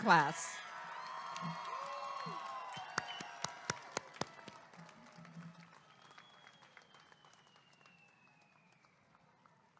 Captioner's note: applause and cheering